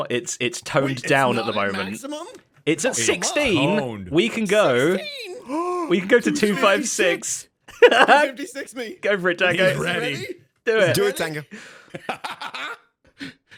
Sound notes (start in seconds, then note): 8.6 laughs; 10.7 laughs